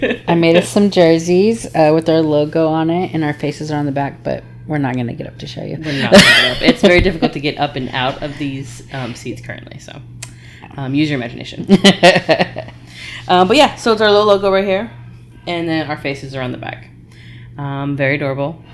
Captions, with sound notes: I made us some jerseys with our logo on it, and our faces are on the back, but we're not gonna get up to show you. It's very difficult to get up and out of these seeds currently, so. Use your imagination. (laughing) But yeah, so it's our little logo right here, and then our faces are on the back. Very adorable.